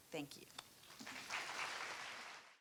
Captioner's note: applause